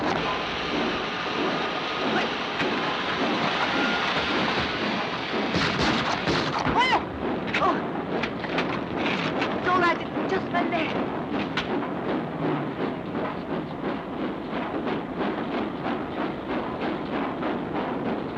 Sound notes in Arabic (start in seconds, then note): 0.2 صوت القطار وهسهسة البخار; 5.2 اطلاق نار; 6.7 يصرخ; 7.6 صوت القطار; 11.6 صوت القطار